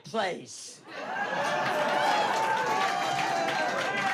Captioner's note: crowd cheering